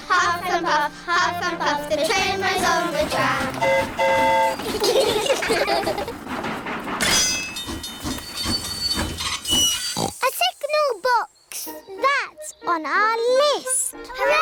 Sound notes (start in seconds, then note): 3.3 train horn toots; 4.6 all giggle; 7.7 tinging; 9.5 oinks